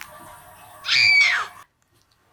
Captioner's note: cartoon scream